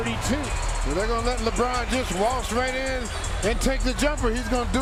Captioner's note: cheers and applause